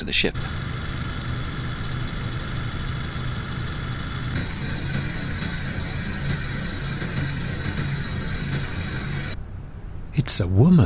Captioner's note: motor noise